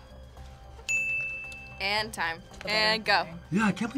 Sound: bell rings

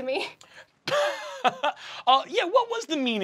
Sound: chuckles

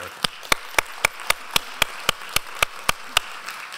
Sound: applause

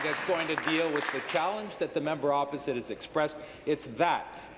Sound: applause

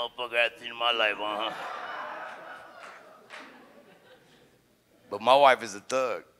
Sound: audience guffaws

